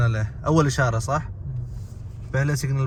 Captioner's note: Arabic